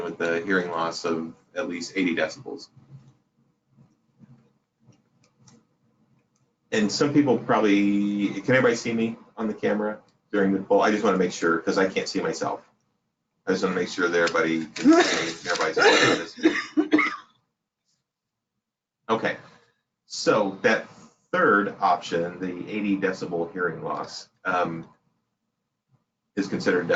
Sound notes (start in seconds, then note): 14.7 coughs